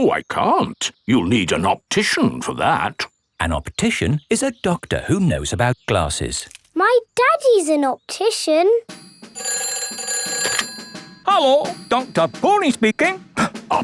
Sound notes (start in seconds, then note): 9.0 ringing